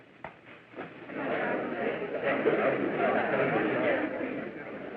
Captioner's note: chattering